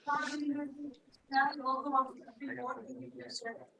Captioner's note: background chatter